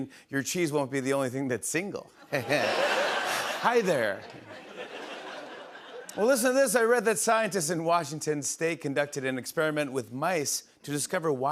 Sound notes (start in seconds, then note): 2.3 chuckles